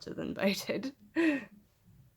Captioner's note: chuckles